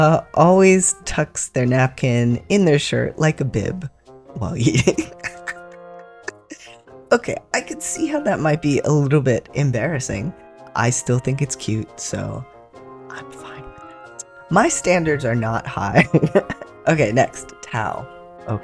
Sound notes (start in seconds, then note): 4.6 laughter; 12.1 whispers